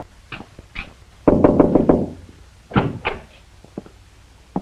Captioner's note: knocks